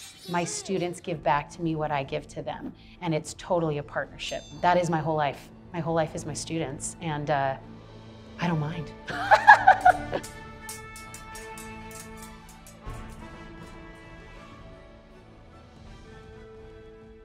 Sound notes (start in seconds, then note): 9.0 laughing; 10.4 dramatic music